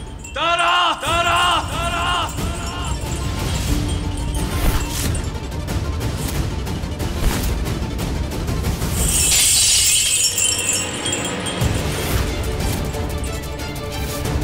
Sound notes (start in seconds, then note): 8.9 glass shattering; 11.6 dramatic music playing